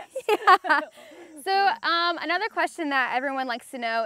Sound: laughs

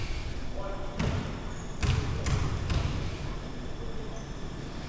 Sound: ball pounding

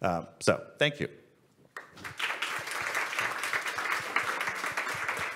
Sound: audience and panel applaud

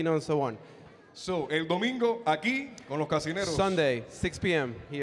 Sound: MC speaking in Spanish

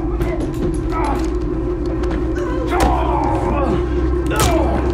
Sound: grunting; gun smacking

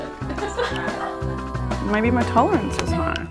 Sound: woman laughing

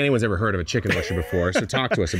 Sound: laughing

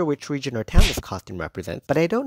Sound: smack sound

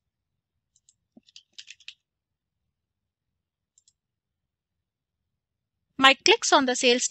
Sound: keypads clicking

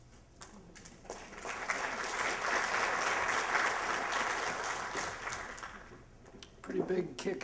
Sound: applause

